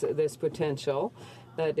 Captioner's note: speaking in french